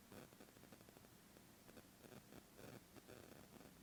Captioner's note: static fizzles